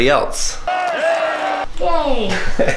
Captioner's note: cheers